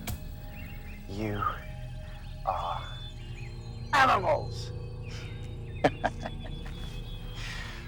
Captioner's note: vampire laughing